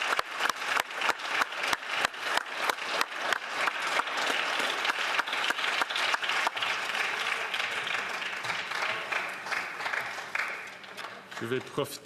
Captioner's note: applause